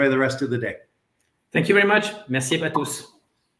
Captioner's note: foreign language